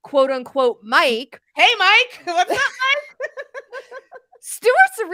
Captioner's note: laugh